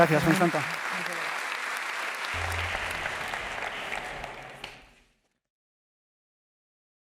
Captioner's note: applause